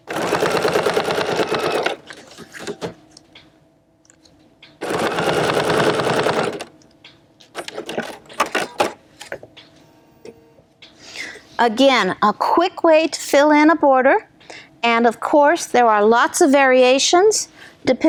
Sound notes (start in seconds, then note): 0.0 machine whirring; 4.8 machine whirring